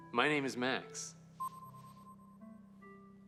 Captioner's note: system beeps